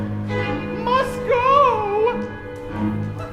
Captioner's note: client in falsetto